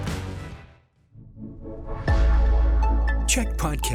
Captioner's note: announcer voice